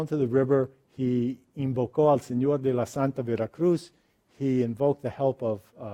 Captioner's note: speaks foreign language